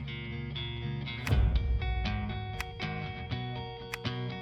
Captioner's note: itles click